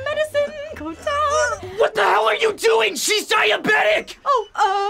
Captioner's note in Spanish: jadear